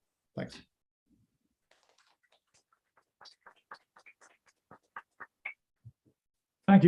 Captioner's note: applause